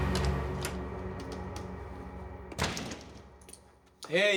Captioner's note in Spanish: Ruido en la puerta